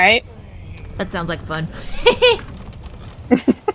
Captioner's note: snickers at impending chaos